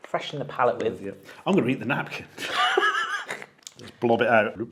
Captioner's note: laughs